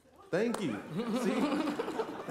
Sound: laughter

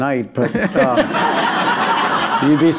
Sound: laughter

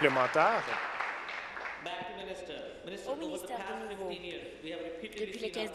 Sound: applause

